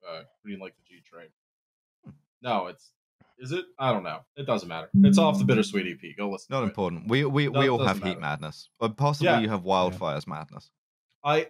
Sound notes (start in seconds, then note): 5.0 deep bell sound